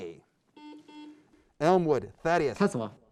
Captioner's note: beep